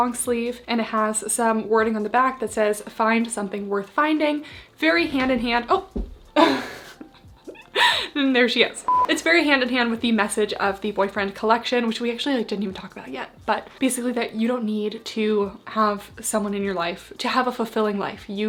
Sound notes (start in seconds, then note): 6.3 laughs